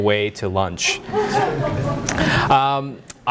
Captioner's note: audience laughing